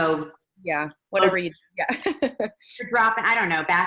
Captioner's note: laughs